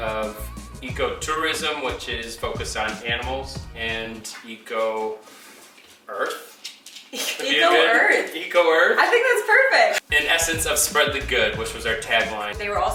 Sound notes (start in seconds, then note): 7.2 laughs